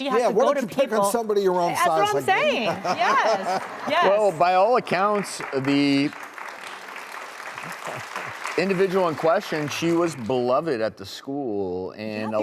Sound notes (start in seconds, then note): 3.8 crowd laughing and clapping; 6.3 crowd continues to clap